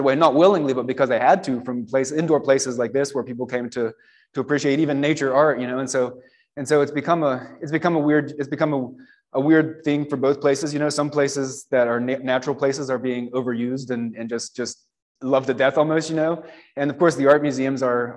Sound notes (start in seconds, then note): none